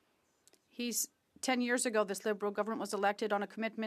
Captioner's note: speaking French